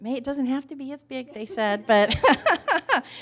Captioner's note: laughs